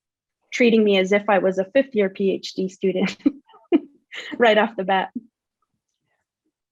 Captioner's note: laughs